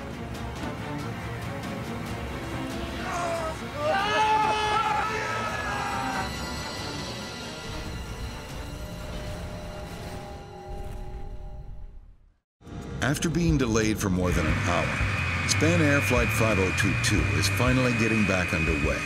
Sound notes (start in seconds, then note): 0.1 dramatic music; 2.4 pilots grunts; 2.6 hollering